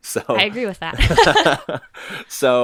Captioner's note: laughter